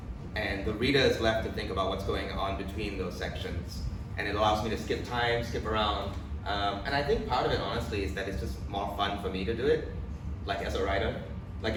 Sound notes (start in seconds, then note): none